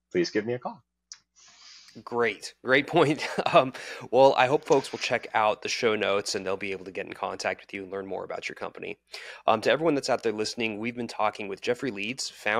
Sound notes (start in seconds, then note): 2.9 chuckling